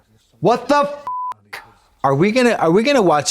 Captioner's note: beep